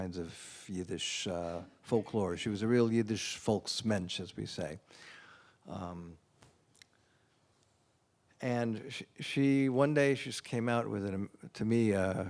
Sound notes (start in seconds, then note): 3.7 non-english